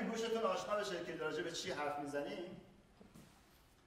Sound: speaking in farsi

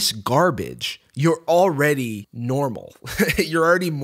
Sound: chuckles

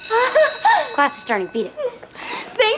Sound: bell rings

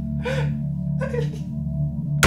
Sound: sobbing

